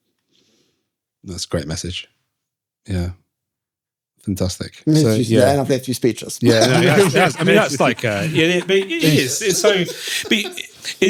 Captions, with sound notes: That's a great message. Yeah. Fantastic. Yeah, and I've left you speeches. (all laughing)